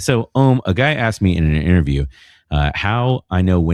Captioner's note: uh